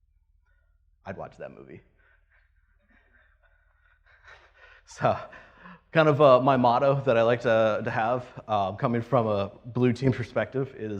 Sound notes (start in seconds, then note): 2.0 laughs